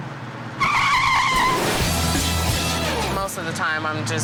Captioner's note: brakes screeching; glass shattering